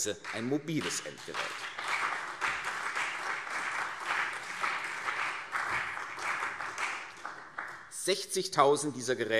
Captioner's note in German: Beifall CDU und BÜNDNIS 90/DIE GRÜNEN